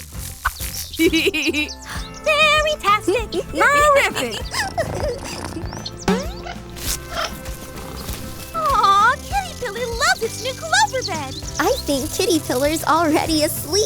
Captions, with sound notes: [LAUGHS] Fairy-tastic. [LAUGHS] Paw-riffic. [BOING] Aw, kitty-pillar loves this new clover bed. I think kitty-pillar is already asleep.